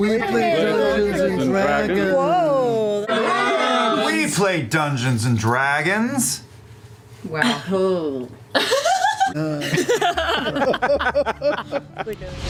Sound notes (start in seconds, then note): 0.6 jazzily; 6.6 audible cringes from everyone